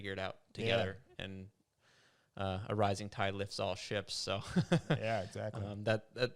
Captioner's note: laughs